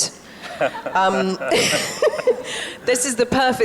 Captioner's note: Emily and panel members laugh